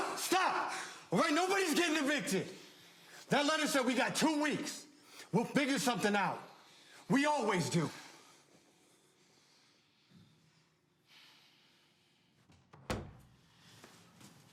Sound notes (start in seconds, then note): 11.4 Rome exhaling